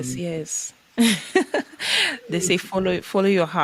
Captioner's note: laughing